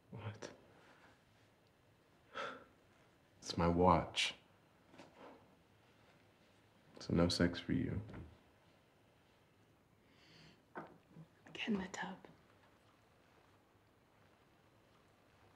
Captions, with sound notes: What? [Exhales] It’s my watch. So, no sex for you. Get in the tub.